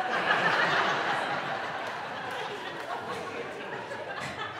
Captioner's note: audience laughing